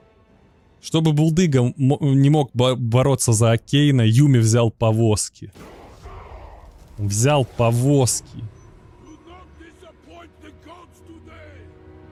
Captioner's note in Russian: стон